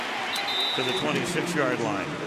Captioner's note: whistle blows